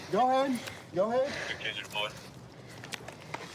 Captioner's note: radio cahtter